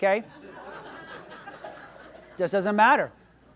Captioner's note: audience laughs